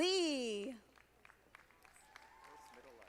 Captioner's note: audience applauding